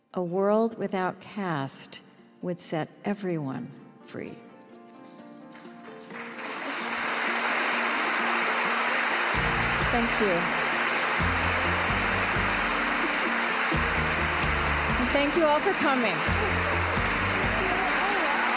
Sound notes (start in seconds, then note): 5.5 applause